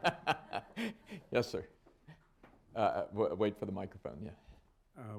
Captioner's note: laughter